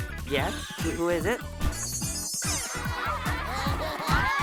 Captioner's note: all laugh